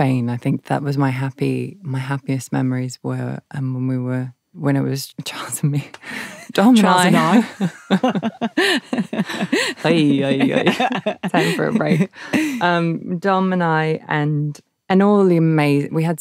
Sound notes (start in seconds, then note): 8.1 laughs